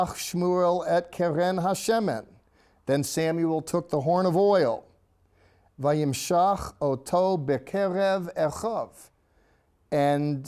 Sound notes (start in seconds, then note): 0.2 speaking in Hebrew; 5.7 speaking in Hebrew